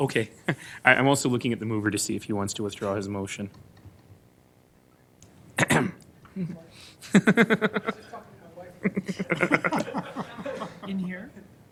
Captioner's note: laughing